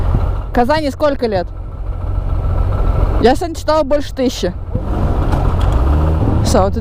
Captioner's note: in Russian